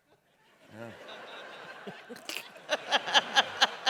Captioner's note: laughter